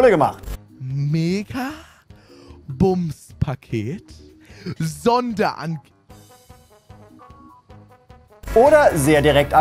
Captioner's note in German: zieht die Luft ein